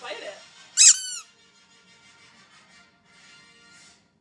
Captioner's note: toy squeaks